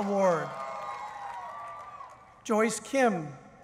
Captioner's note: cheering